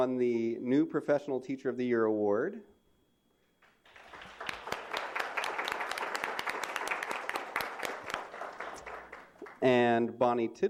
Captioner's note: applause